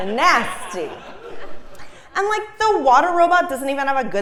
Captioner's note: laugh